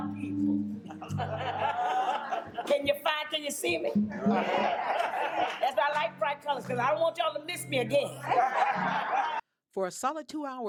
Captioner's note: crowd laughs